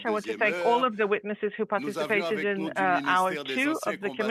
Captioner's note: speaking French